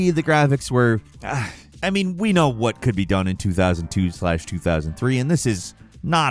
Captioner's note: groans